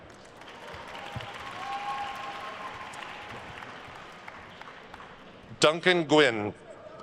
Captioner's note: attendees cheering and applauding